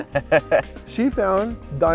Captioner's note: laughing